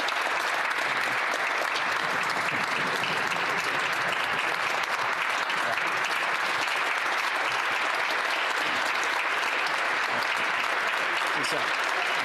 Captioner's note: applause